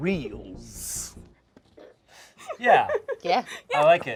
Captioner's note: laughs